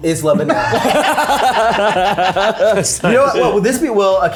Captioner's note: people laughing